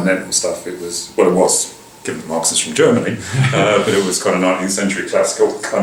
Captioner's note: laughter